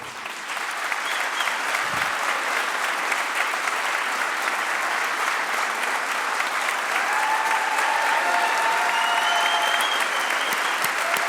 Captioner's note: applause